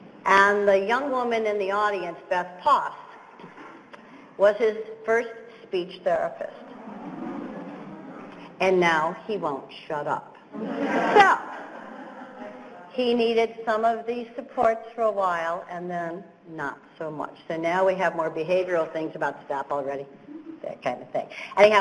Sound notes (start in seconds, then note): 10.5 laughter